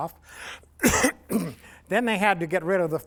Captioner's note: coughs